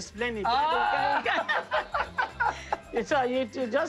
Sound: laughter

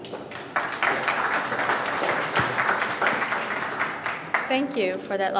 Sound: audience clapping

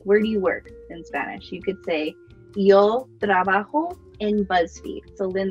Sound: speaking Spanish

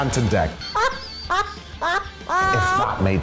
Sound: laughs

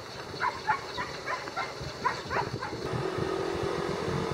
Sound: barking

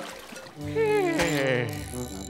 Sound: sighing

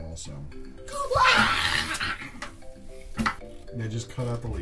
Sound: vocalizes excitedly

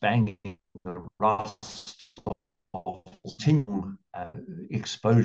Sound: audio distorted

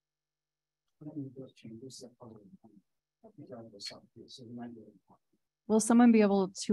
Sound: speaker speaking in foreign language

